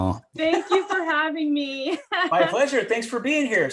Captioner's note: laughs